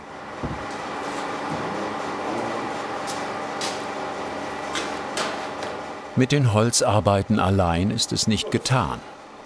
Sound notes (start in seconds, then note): 1.4 machine noise